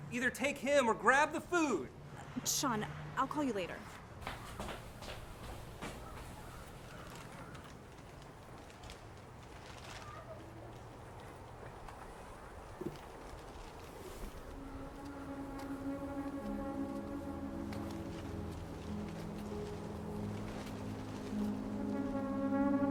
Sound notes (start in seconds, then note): 6.2 wind blowing; 14.5 foreboding music